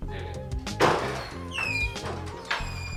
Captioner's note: door swings open